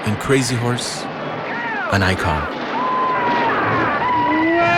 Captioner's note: fierce battle cry